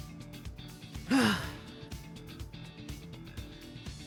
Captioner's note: sigh